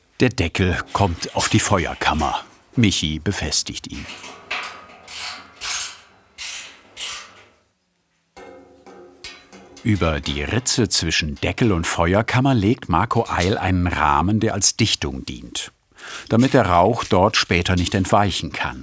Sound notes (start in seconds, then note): 4.5 crackling noises